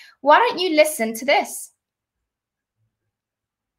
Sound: none

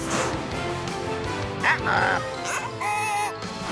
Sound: baaing

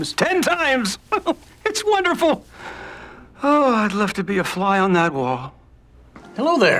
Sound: laughs

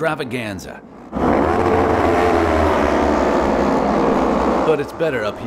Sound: engine sound

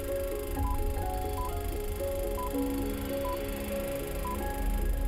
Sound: inspiring music plays; beeping

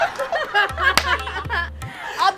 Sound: laughing

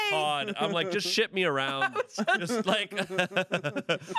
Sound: laughs

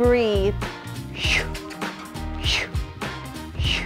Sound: puffing

